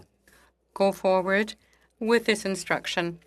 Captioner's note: speaking in French